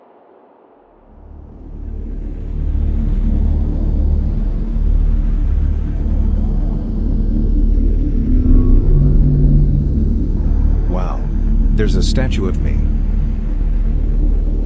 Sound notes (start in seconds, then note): 1.2 tense ambient music; 8.3 aircraft whirs